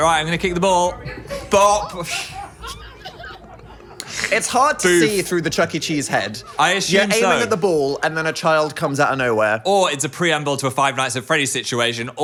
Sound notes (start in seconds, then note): 0.8 crowd laughing